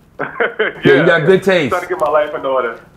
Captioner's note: laughter